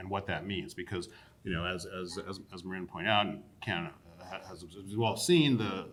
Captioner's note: stammers